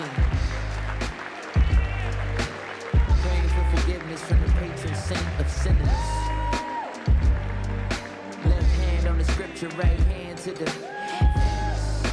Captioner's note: cheering and Applause